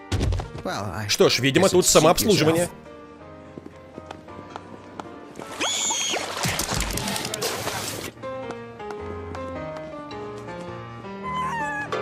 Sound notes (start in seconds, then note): 5.5 shrieking; 11.1 howls